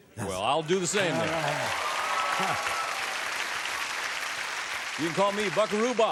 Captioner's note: applause